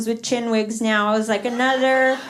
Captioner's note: laughter